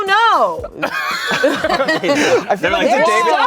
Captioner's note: everyone laughs